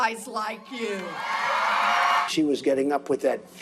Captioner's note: crowd cheering